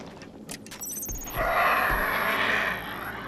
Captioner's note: click, screen buzzing